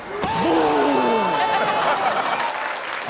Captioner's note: pupils cheering; audience cheering and clapping